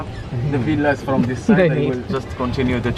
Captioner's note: chuckling